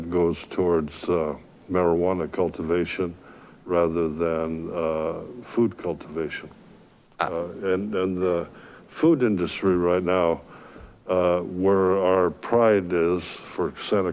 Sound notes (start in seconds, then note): none